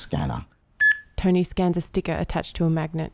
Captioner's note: beep